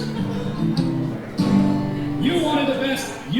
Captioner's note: guitar strumming; audience chuckling